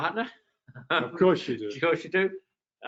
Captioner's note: laughs